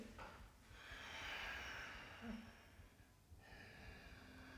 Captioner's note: exhales; inhales